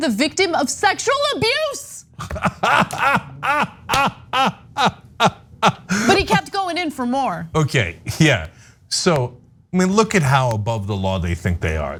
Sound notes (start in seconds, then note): 2.2 laugh